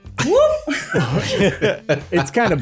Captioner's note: anger Laugh activiated